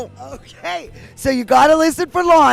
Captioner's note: chuckles